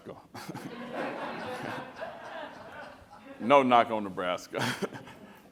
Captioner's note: laughter